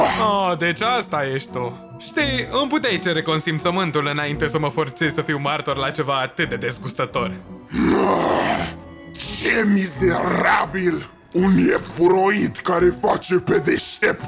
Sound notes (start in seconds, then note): 7.7 grumbles